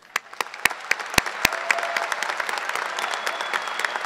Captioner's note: audience applause